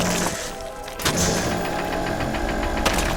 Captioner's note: laser whirring